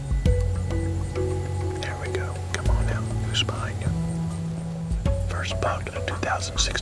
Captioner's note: whispering